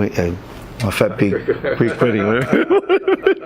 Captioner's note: both laugh; laughs